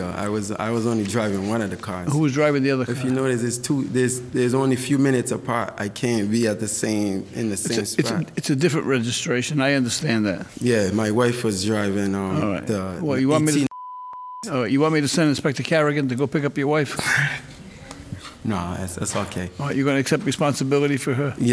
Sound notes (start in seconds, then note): 17.0 laughs